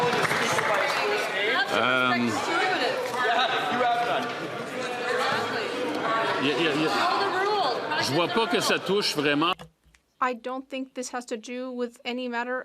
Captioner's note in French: applaudissements